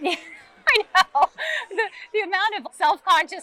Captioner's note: laughs